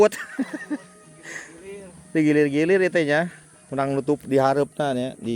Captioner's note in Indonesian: tertawa